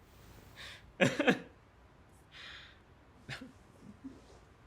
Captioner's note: Jack chuckles